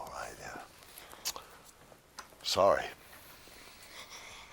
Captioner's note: smacks lips; chuckles to himself